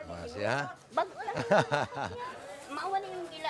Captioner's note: laughs